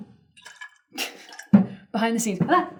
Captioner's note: water sloshing